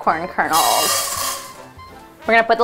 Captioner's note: popcorn kernels rattle